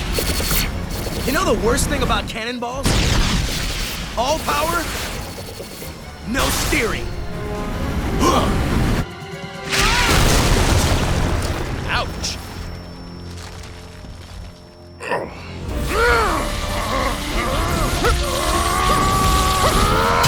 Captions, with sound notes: You know the worst thing about cannonballs? All power, no steering. [WINCING] Ouch! [GROANING]